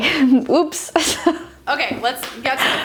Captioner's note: laughing